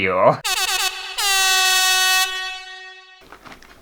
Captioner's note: air horn!!!